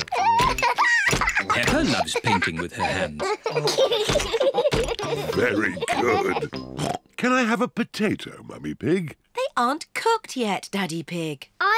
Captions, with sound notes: -(LAUGHS) -Peppa loves painting with her hands. -(BOTH LAUGH) -Very good. Oink! Can I have a potato, Mummy Pig? They aren't cooked yet, Daddy Pig.